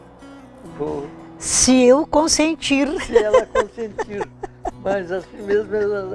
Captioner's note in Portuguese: risos